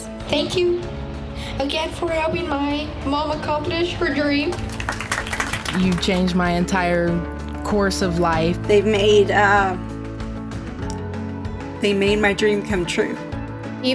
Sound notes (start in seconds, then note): 4.5 group applauds